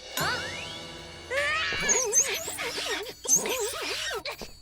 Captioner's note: dramatic music; bike squeaking; Milo panting